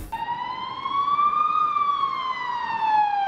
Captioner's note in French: sirène d'ambulance